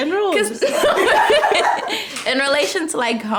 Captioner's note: group laughs